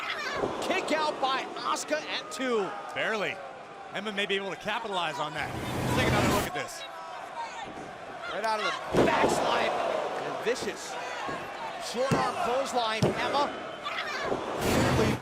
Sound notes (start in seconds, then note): 12.5 crowd chatter